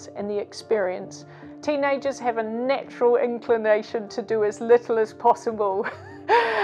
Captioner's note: laughs